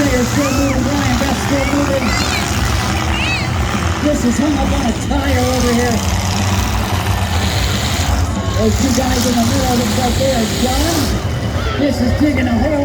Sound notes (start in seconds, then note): 0.0 crowd cheers; 0.0 rock music plays; 6.5 engines rev